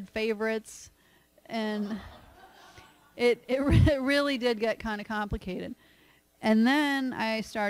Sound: laughter

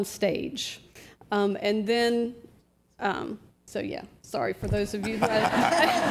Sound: laughter

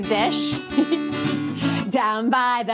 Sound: chuckles

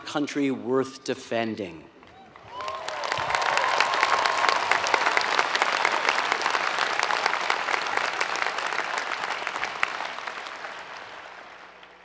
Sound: applause

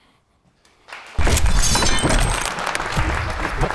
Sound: applause

